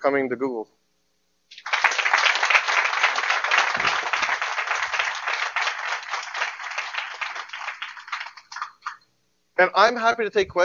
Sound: applause

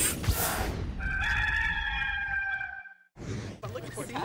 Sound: rooster crows

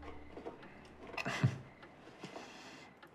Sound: chuckles

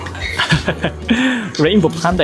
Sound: chuckles

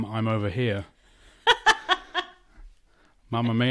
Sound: laughs

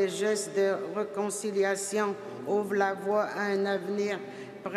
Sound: speaking French

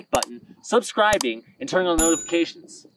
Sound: mouse clicks; bell dings

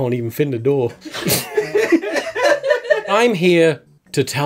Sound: laughter

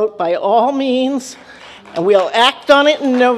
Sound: applause

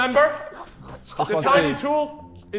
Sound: Sidemen laughing

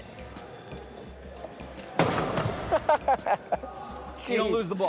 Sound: rolling...crash!; laughs

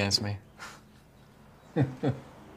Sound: joseph scoffs, laughs

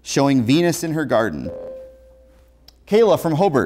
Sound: buzzer

